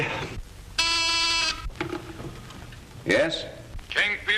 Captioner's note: intercom buzzing